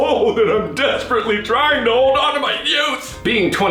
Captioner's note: sobbing